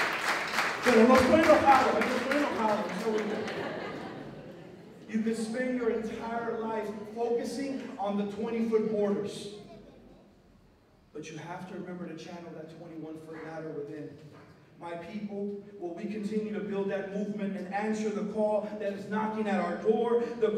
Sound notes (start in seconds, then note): 0.1 non-english speech; 2.2 laughter